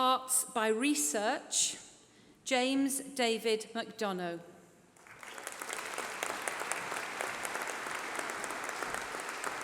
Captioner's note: applause